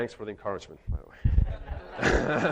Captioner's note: chuckles; audience laughing